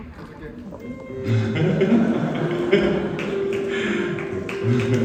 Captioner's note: chuckles